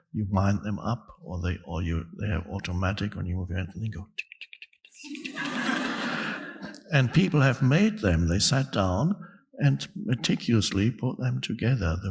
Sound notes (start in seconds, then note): 4.2 clicking; 5.0 audience laughing